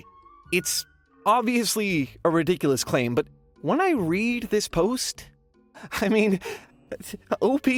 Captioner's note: slight, incredulous chuckle